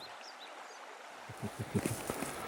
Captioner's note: laughter